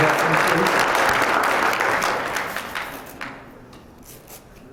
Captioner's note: applause